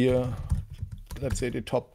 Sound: keyboard clacking

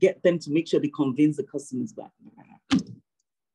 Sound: speaking faintly

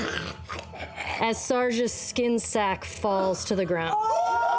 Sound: the cast starts shouting

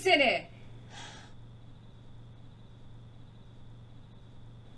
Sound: crickets chirp

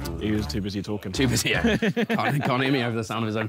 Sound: laughing

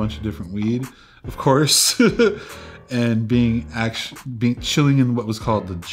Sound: laughs

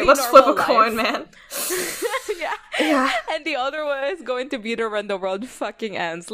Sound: laughs

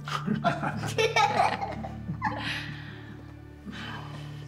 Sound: all laughing

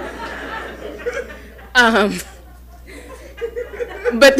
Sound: audience laughing

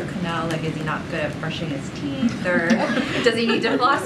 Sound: laughter

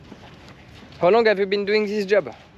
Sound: speaking in foreign language

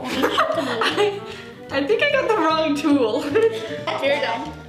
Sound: laughing

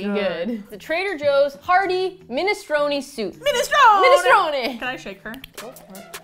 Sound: Italian accent

